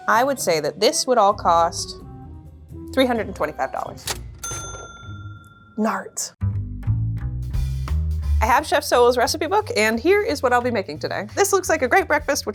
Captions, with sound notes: - I would say that this would all cost $325. [cash register dings] Nart. [upbeat jazz music] I have Chef Soul's recipe book, and here is what I'll be making today. This looks like a great breakfast,